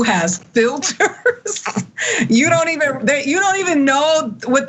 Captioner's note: laugh